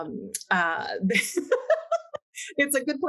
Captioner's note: laughing